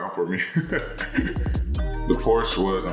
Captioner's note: laughing